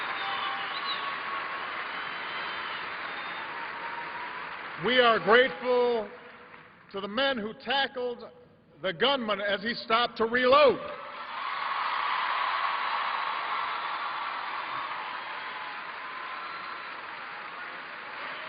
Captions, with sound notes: WE ARE GRATEFUL TO THE MEN WHO 240 00:13:34,000 --> 00:13:33,999 TACKLED THE GUNMAN AS HE STOPPED TO RELOAD. [CHEERS AND APPLAUSE] 243 00:13:44,000 --> 00:13:43,999 THEY ARE RIGHT OVER THERE. [APPLAUSE]